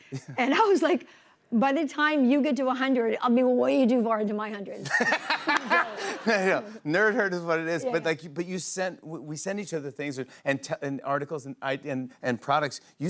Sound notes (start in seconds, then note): 4.8 laughter